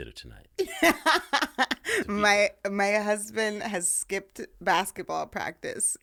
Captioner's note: laughing